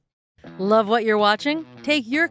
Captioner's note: voiceover